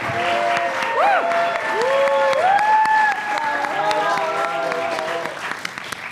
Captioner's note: applause